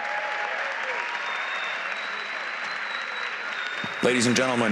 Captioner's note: applause